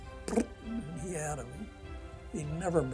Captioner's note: trilling